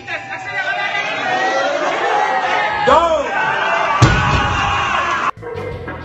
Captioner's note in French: encouragements puis cris